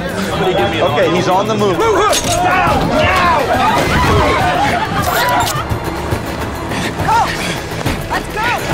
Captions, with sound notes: Don't move! Down now! [Syringe sound] Go! Let's go!